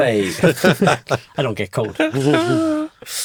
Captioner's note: all chuckle